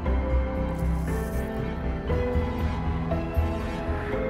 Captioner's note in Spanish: Sonido del líquido desplazándose